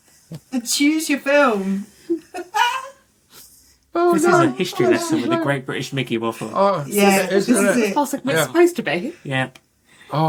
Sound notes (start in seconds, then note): 2.0 laughter